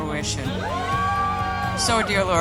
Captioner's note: women cheering